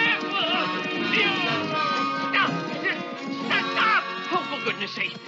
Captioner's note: anxious screaming